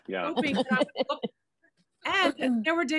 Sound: laughing

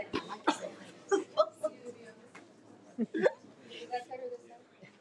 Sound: woman laughs; woman speaking faintly

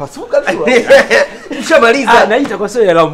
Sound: laughs

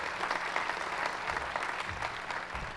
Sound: applause

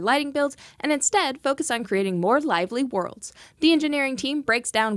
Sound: none

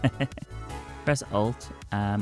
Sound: laughs

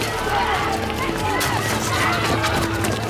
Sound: yelling

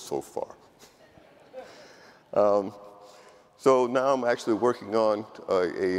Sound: audience laughing

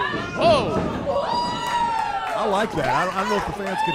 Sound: audience whooping

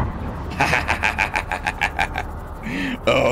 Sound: laughing like a mad man

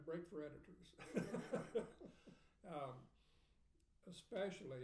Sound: laughing

